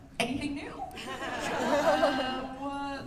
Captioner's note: laughter